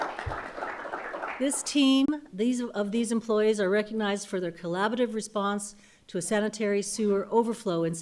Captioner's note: applause